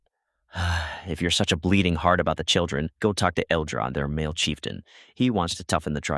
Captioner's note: sigh